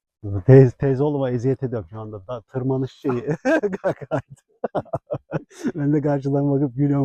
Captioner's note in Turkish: kahkaha